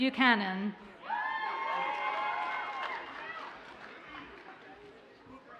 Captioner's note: audience cheers and applauds